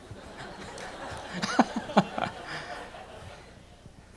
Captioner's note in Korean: 교수님과 청중들 모두 웃음 ㅎㅎㅎ